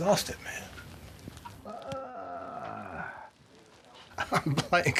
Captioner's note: sighing